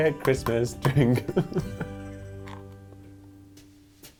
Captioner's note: laughing